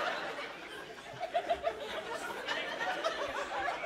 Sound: laughter continues

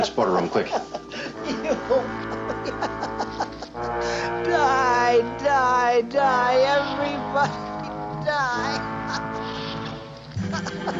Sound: laughing; chuckle; laughing; laughter

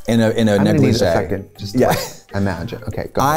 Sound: laughs

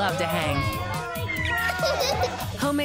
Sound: cheers

